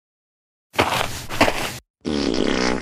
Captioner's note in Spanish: FX - Footsteps - On Multiple Dirt - Walk